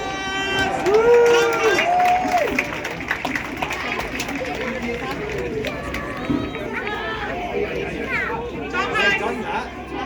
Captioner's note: cheers/applause